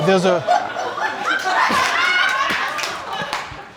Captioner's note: all laughing and whooping